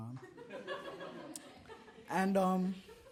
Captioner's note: audience laughs